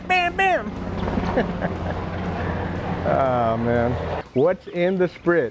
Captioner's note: plane engine roaring; laughs